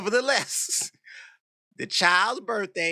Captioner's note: laughs